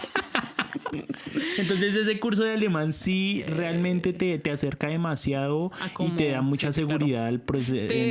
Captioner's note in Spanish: risas